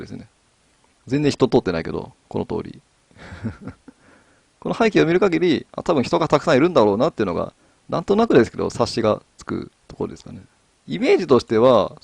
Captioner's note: laugh